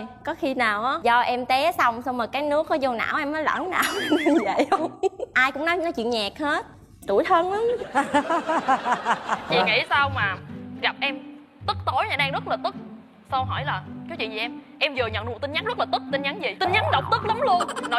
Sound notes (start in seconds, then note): 4.7 chuckle; 7.9 laughs